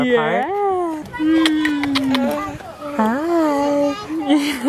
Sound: kissing; laughs

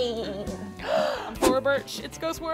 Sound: gasps

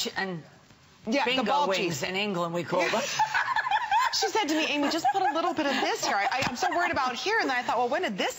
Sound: laughter

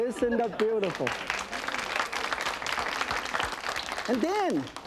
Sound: audience applauds

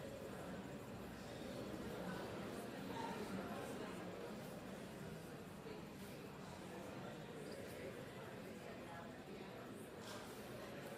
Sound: audience murmurs, claps, and whoops

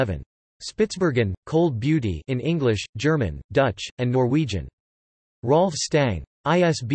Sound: in English, German, Dutch, and Norwegian

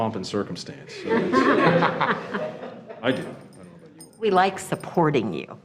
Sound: laughing

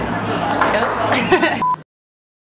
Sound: laughs

